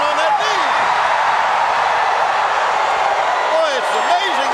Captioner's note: crowd cheering